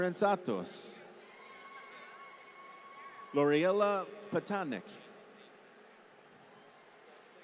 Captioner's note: applause